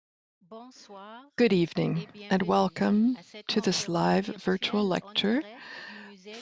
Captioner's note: speaks french